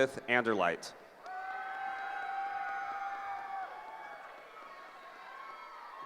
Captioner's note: cheering